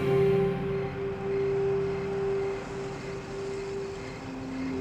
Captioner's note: crickets chirping; soft music